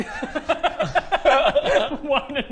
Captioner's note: laughs